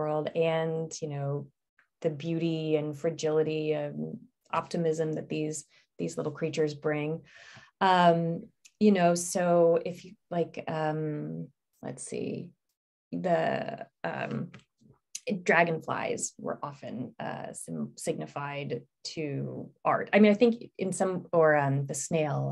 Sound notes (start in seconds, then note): 8.5 stammering